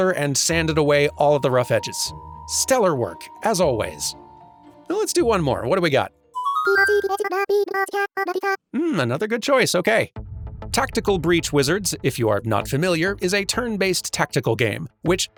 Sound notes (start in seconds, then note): 6.3 Animal Crossing dialog sounds